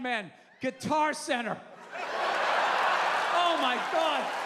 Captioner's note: laughter